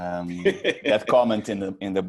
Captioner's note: laughs